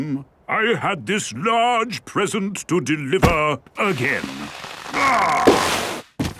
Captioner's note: groaning